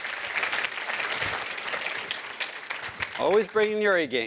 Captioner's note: applause